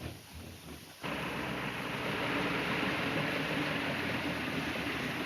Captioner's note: airplane engine roaring